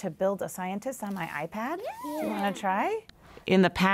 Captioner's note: students agree, sounding excited